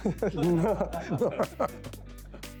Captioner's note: laughing